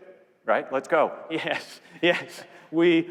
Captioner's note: laughs